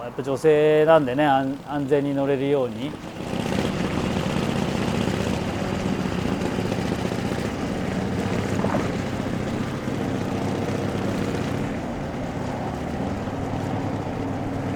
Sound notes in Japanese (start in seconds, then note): 3.9 エンジン音